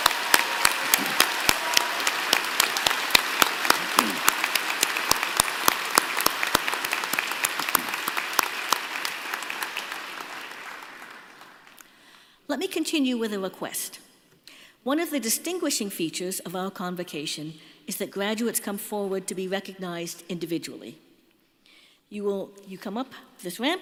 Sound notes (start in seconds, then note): 4.1 applause